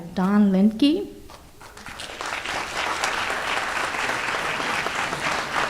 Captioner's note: audience applauds